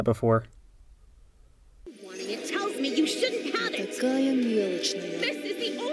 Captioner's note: Uzi & Doll squabbling